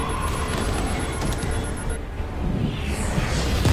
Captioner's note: alarm beeping